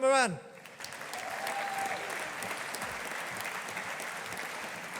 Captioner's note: audience applauding